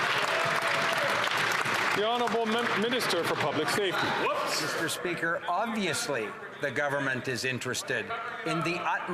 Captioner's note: some Applause